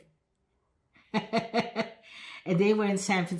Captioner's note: laughing